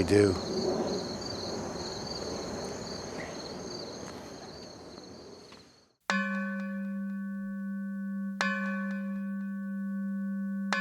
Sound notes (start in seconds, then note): 6.1 bell clangs